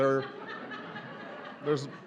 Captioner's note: laughter